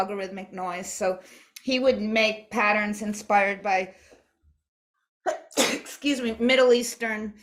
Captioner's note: sneezes